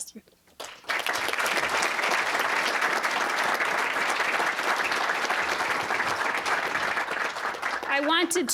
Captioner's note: applause